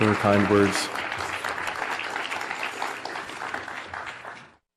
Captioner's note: audience clapping